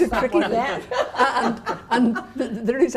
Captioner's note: the practitioners laugh